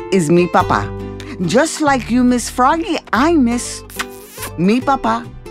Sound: kiss

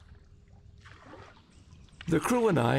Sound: splashing

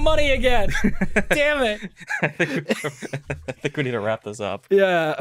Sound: laughing; also laughing

